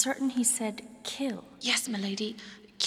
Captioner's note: whispers